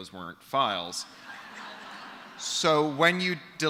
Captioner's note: laughter